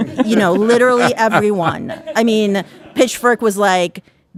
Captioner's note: audience laughing